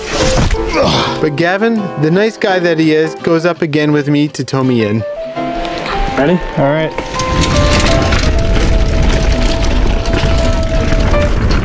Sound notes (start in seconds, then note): 0.6 grunts; 7.5 tires rumbling on the ground